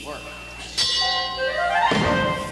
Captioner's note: ding